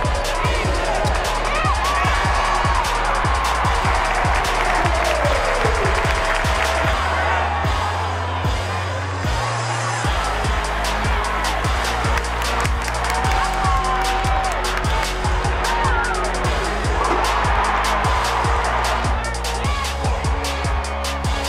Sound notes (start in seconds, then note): 0.1 crowd cheering; 7.1 upbeat music; 13.5 crowd cheering